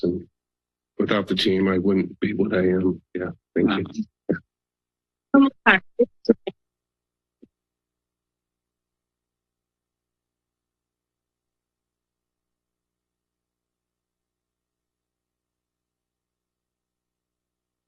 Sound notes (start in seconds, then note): 6.7 silence